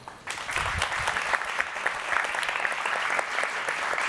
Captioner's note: audience applauding